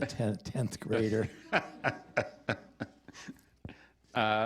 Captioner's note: laughter